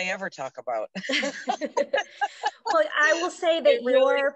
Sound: laughs

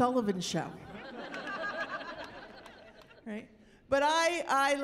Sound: chuckling

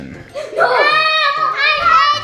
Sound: screaming

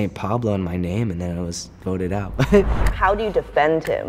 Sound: laughs

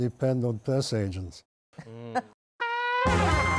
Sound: chuckles

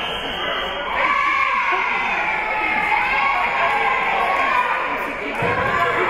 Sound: whistle being blown; team and spectators cheering

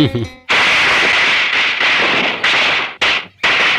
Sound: fireworks exploding

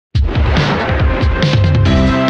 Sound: swooshing

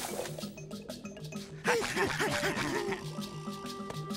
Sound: panting

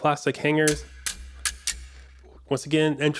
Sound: plastic hanger sounds

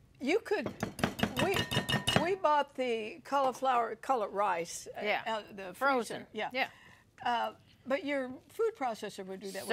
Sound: clanging dishes

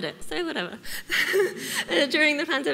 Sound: laughs

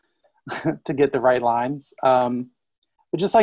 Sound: laughs

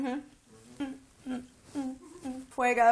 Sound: humming

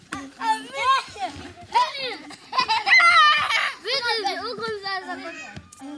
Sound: children chattering and laughing

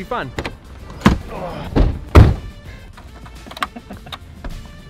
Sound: car doors closing

